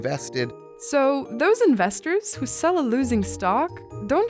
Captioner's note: voiceover